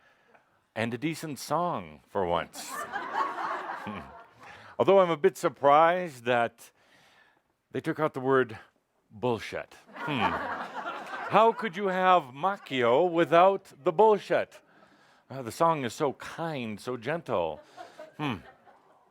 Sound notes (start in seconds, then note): 0.0 laughter; 9.9 more laughter